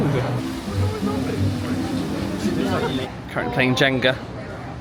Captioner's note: guests chattering